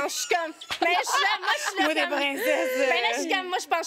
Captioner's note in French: rires